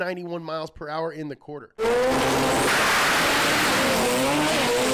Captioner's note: car engine roars